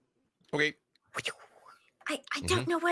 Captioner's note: Niko wooshes